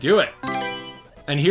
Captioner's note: Mario Selection Sound